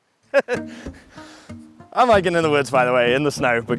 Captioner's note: laughs